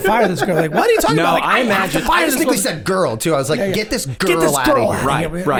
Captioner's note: all murmuring